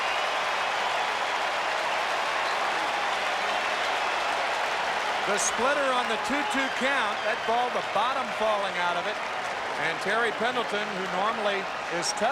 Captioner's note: cheering and Applause